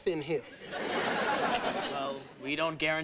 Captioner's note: audience laughing